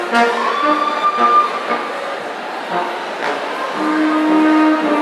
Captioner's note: audience cheering